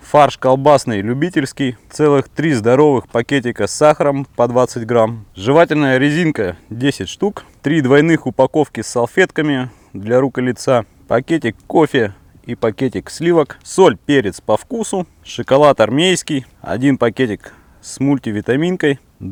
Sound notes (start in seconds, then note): 16.1 in Russian: Military